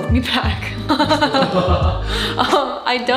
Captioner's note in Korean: 흐허허ㅎㅎ